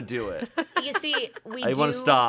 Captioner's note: laughs